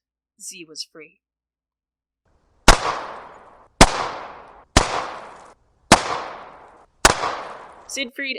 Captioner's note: gun shot